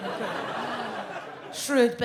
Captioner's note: audience laughs